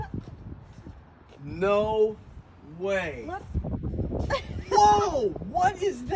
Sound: laughs; laughs

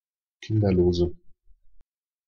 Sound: fast Pronunciation

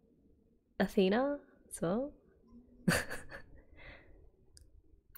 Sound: laughs

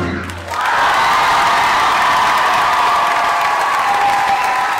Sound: wild cheering and applause

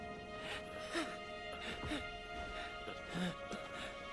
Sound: exhales; wheezes

